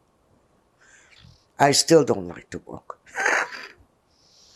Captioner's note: laughing